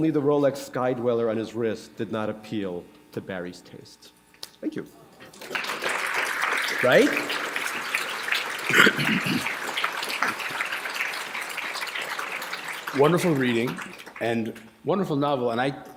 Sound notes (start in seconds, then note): 9.4 applause